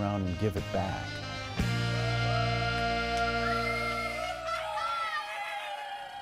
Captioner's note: cheering, whistling, and laughter